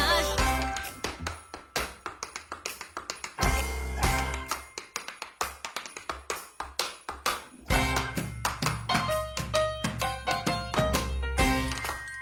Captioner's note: tapping